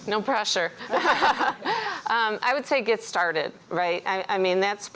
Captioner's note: laughs